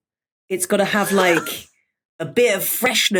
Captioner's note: wheezes